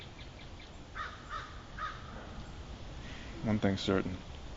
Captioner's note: bird calling